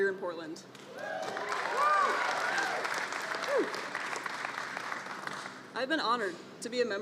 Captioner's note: applause